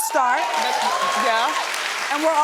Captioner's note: audience cheering